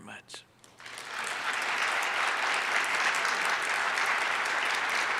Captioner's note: audience applauds